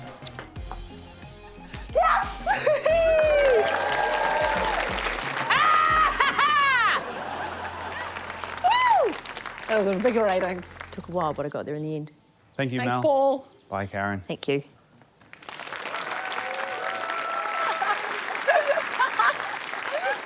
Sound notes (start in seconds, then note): 1.9 laughs; 3.4 cheering, applause; 5.4 laughs; 5.5 laughter; 7.4 cheers; 8.1 applause; 15.2 applause, cheering; 17.4 both laugh